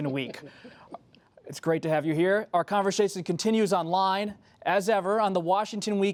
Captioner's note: laughter